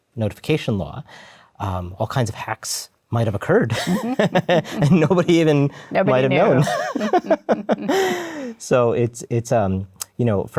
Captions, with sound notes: notification law, all kinds of hacks might have occurred. And nobody even might have known. [LAUGHTER]